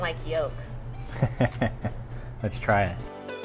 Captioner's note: laughs